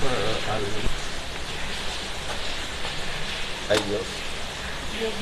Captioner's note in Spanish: voces